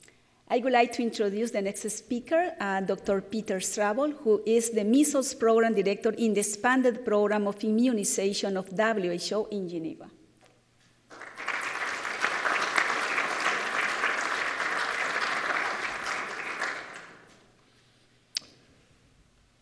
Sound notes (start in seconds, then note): 11.0 applause